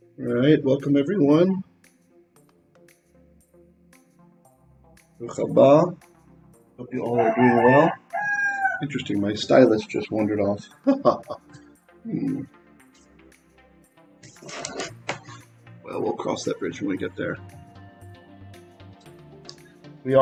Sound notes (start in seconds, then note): 2.8 Hebrew; 14.3 laughing